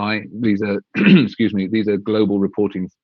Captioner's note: clears thought